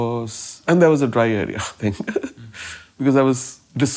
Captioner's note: laughing